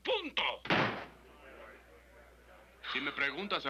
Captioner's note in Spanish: murmullos